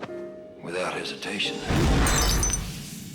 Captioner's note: explosion